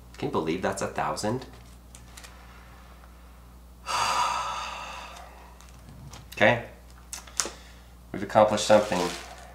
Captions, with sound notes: Can you believe that's a thousand? (exhaling sharply) Okay, we've accomplished something.